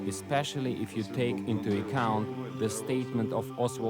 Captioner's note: speaks in foreign language